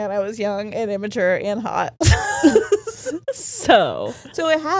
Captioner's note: all laughing